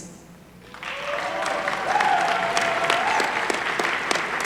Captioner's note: applause